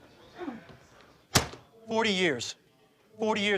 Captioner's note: folder hits table